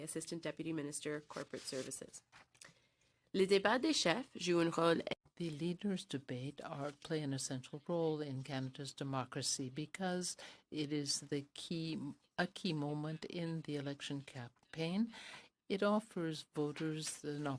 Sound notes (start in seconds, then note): 9.4 speaking french